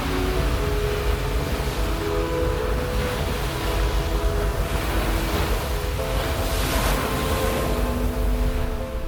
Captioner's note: peaceful serenity of the rhythmic crashing of waves